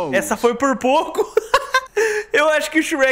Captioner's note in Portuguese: Risos